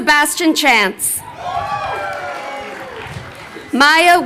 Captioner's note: crowd cheering